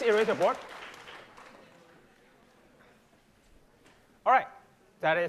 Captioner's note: applause